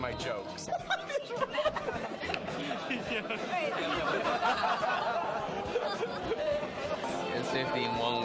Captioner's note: laughter